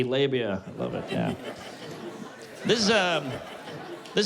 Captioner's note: laughter